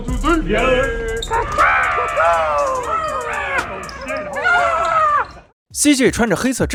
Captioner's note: the shouts of eagles rising and falling